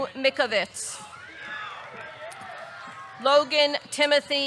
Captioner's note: audience cheering; audience clapping